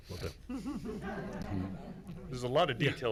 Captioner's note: everyone chuckling